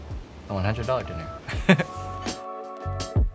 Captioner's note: chuckles